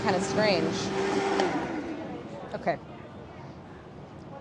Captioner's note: blender whirs